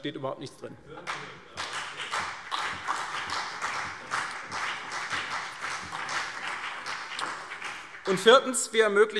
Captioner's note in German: Beifall CDU und BÜNDNIS 90/DIE GRÜNEN